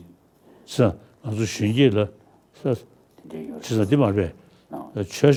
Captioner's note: speaking foreign language